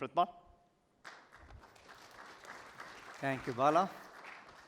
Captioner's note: applause